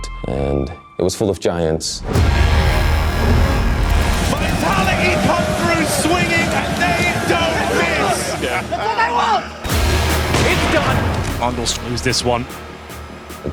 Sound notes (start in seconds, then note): 2.0 epic music playing; 9.7 gunshot